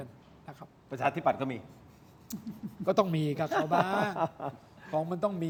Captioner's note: laughter